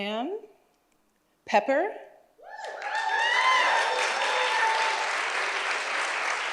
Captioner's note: audience applauds and cheers